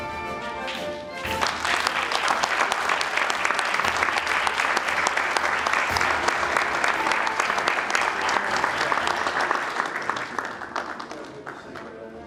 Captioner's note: applause